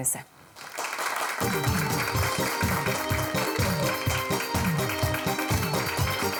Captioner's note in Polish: Aplauz